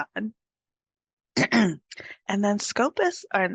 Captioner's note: clears throat